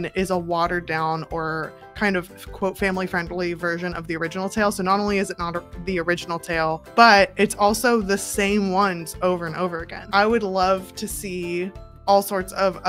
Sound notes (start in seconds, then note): none